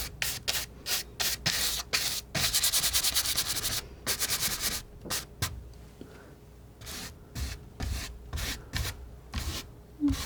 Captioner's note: scratching